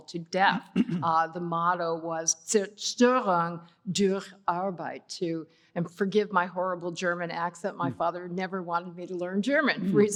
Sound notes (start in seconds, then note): 4.0 german